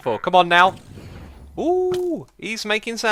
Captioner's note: uuhhh